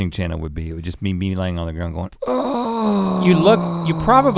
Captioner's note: moans